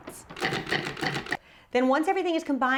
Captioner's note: food processor pulses